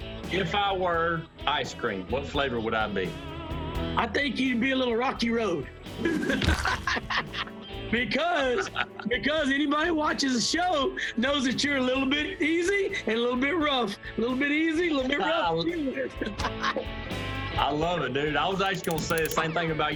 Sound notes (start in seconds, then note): 6.0 laughter; 16.0 laughter